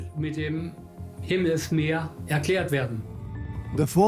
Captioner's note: speaks in German